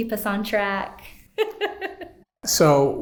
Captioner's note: laughs